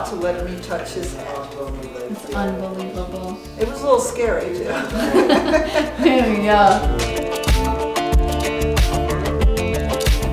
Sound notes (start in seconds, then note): 4.7 laughs loudly; 7.1 upbeat music